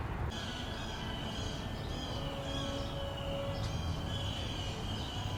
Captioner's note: birds chirping loudly